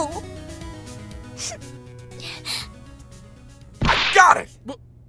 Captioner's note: sniffle